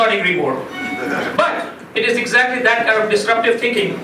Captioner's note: laughing